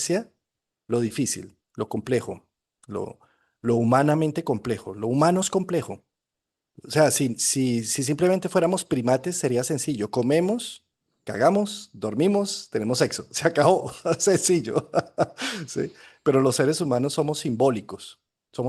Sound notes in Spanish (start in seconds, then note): 13.9 risas